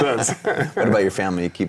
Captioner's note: laughing